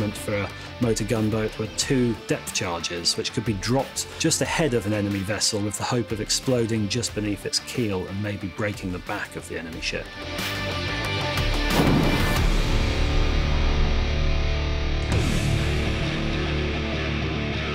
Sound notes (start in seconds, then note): 10.3 intense rock music; 11.7 explosion; 14.4 rock music continues